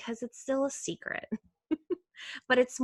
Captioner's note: laughing